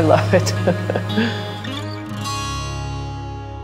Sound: laughing

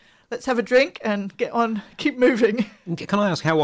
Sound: laughs

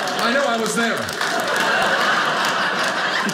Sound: audience laughing

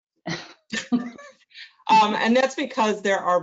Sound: laughs

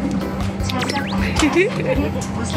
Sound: hehe

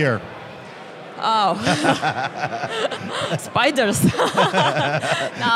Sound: laughs

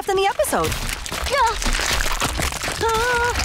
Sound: cracking

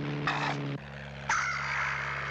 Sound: squawking

